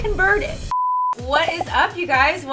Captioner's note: beep